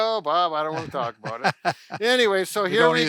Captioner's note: laughs